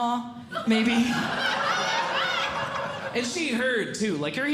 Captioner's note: audience Laughing